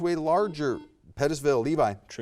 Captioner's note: buzzer buzzes